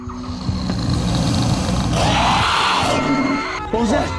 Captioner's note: screeching